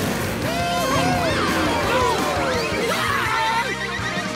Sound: cheering

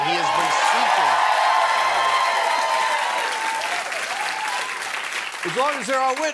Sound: cheers and applause

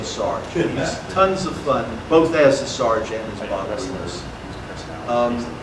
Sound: audience murmur

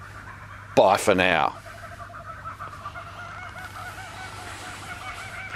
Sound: birds chirping

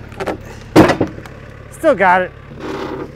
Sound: slab clunks

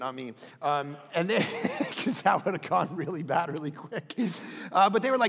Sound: laughs

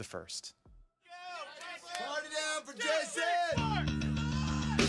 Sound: cheering; energetic rock music

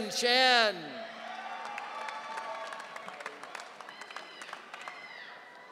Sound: audience cheering

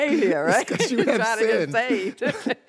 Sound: laughs

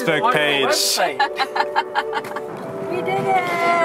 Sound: laughs

